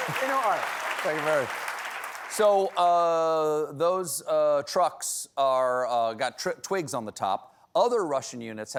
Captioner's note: applause